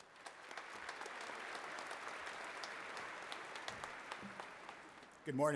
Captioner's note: applause